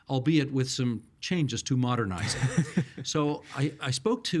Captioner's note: chuckling